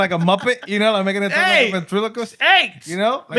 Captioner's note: speaking Spanish